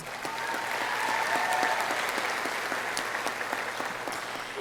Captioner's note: audience applauding